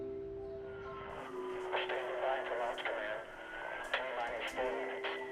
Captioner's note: man over imaginary radio